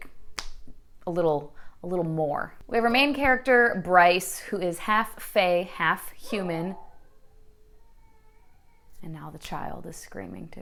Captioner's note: dog bark & kid crying